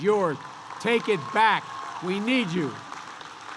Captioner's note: applause